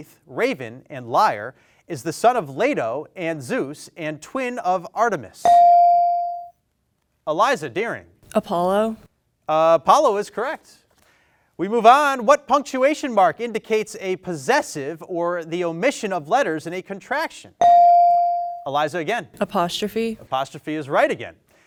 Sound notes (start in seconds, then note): 5.4 bell dings; 17.6 bell dings